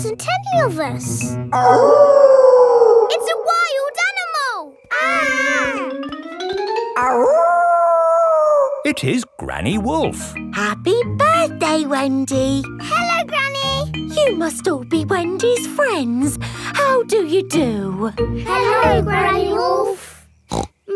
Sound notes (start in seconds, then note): 1.5 wolf howling loudly; 4.8 kids yelling; 7.0 howling